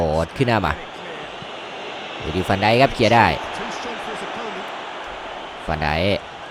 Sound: applause

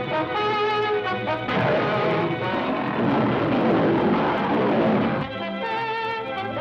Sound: lions roaring

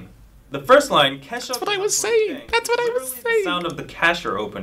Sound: in a high pitch, happy voice

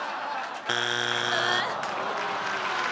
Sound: laughing; buzzing; clapping

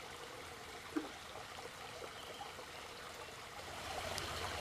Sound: pond water rushing

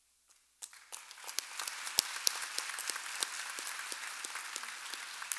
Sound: audience applauding

